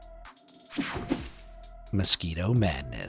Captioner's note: air whooshing